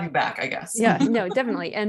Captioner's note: chuckles